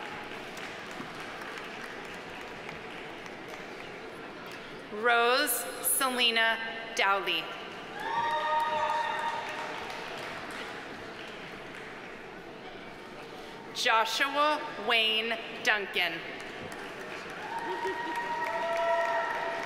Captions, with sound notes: (audience applauding) (audience cheering) Rose Selena Dowley. (audience applauding) (audience cheering) Joshua Wayne Duncan. (audience applauding)